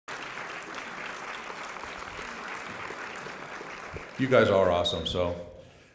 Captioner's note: applause